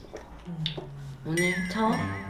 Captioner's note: tsk